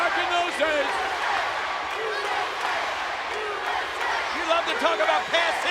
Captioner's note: audience chanting